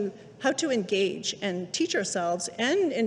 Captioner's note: none